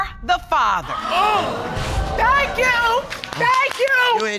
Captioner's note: audience exclaiming